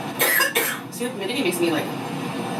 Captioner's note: coughs